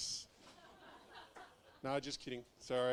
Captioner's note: audience laughing